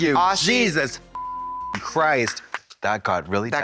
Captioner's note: beep